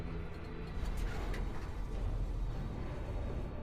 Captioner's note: metallic scraping